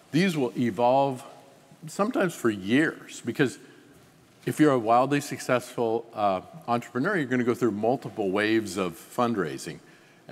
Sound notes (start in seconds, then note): none